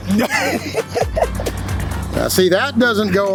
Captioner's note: chef laughs